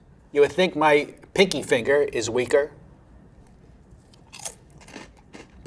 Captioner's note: food crunching